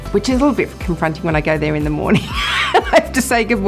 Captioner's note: laughs